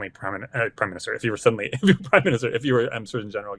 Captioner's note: laughing